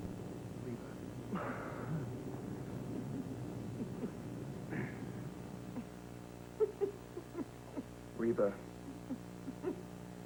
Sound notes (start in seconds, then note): 2.1 Reva laughs quietly